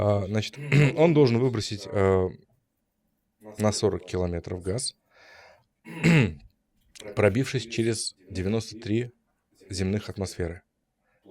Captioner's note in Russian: откашливается